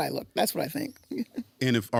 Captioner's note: chuckles